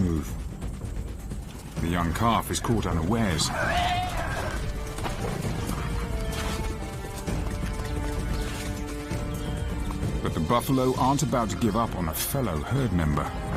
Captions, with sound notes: But the buffalo aren't about to give up on a fellow herd member. (dramatic music) (buffaloes bellowing)